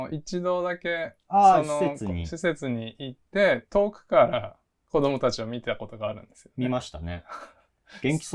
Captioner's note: laugh